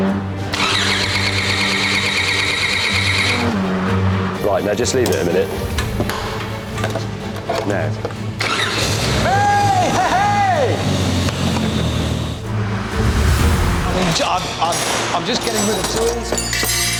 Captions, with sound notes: (ENGINE FAILS TO START) Right, now just leave it a minute. Now. (ENGINE STARTS, RICHARD CHEERS) I'm just getting rid of tools.